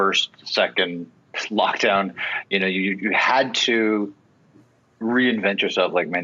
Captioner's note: chuckle